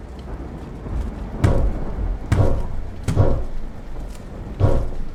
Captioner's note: door knocks 3 times